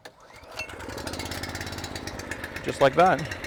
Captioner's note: engine starts